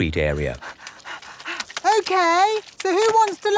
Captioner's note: panting